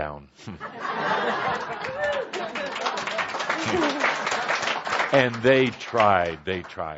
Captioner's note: laughter and audience applause